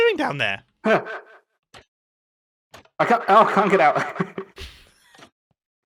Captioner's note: chuckles